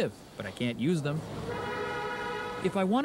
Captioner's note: traffic